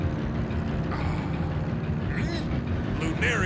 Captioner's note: sighs